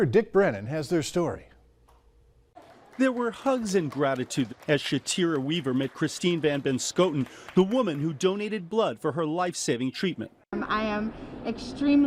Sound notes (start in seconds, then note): 4.7 nat up full hugs and applause